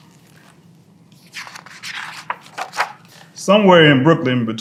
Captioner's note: pages rustling